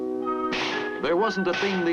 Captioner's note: gun firing